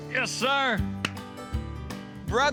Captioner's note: claps hands